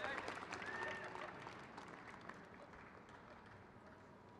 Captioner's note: crowd claps